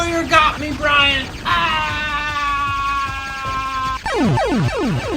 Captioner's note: screaming